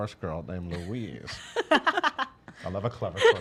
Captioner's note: laughs